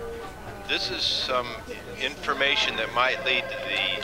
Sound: on phone

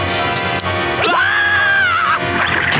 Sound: screaming; door shutting

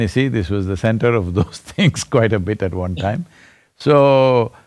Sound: laughs

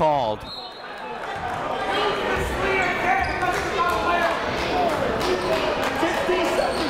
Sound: crowd talking; coaches yelling

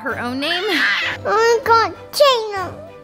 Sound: kid yells

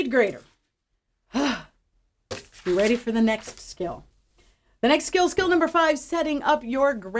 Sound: exhale

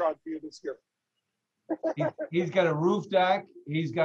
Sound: laughs

